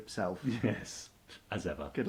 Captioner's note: chuckles